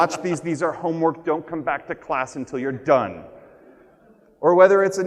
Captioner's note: none